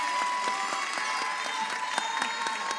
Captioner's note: audience applauds